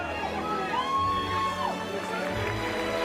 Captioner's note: people cheering